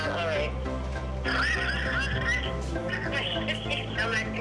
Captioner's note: laughing